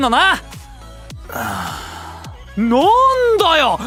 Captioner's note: sigh